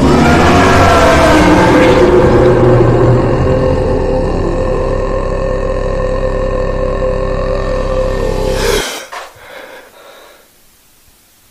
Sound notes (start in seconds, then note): 0.0 creature howls; 2.6 creature groans; 8.5 Mason gasps